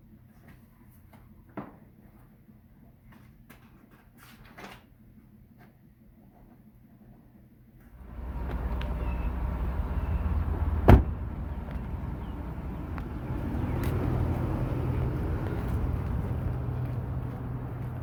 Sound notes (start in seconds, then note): 4.4 pages turning; 7.9 wind and birds; 13.2 cars passing